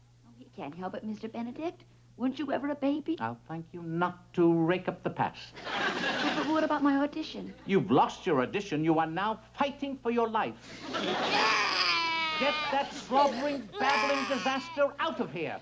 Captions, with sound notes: He can't help it, Mr. Benedict. Weren't you ever a baby? I'll thank you not to rake up the past. What about my audition? You've lost your audition. You are now fighting for your life. (Stanley cries) Get that squabbering, babbling disaster out of here!